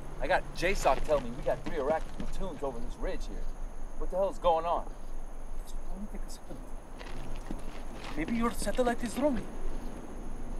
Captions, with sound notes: I got J-stop telling me we got three Iraqi platoons over this Ridge here. What the hell's going on? (whispering) - Maybe your satellite is wrong.